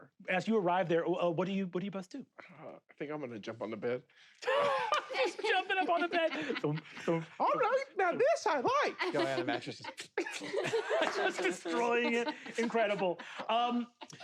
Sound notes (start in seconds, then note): 4.4 laughs